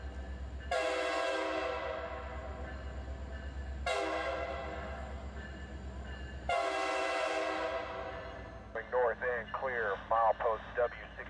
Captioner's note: train horn